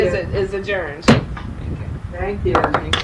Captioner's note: slams gavel on surface